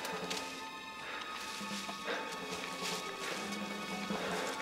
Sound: men panting

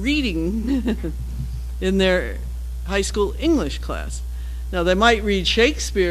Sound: laugh

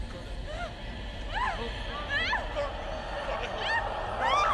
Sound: Lily screaming

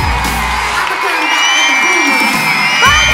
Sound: crowd cheering

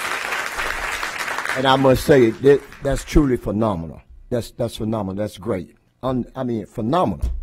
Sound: applause

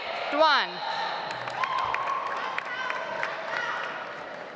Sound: audience applauds

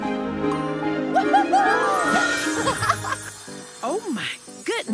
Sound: whooping; chuckling

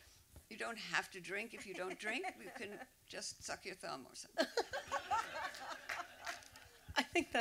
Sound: laughter

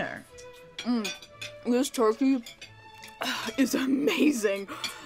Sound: messy eating noises

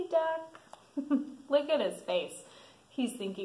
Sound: laughs

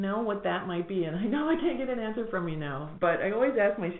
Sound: laughs

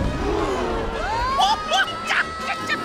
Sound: gasping; cheering; screaming

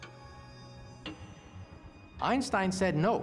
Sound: clock's ticking slowing

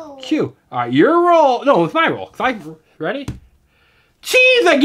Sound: voiceover

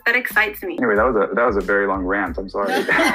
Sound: laughter

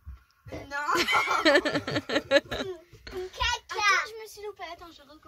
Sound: laughs

